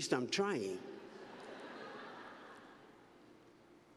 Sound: laughter

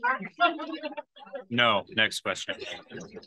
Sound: laughs

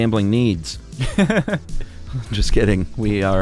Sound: laughing

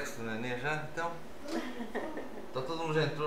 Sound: laughs

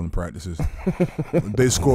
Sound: laughing

